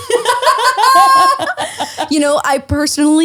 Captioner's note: laughing